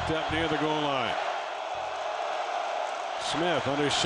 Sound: crowd noise

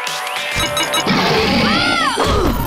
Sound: roaring, screaming

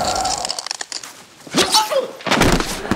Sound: grunting

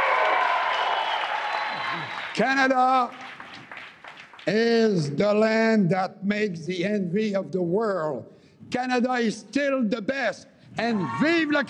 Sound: cheering and APPLAUSE

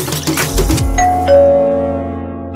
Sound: door bell rings

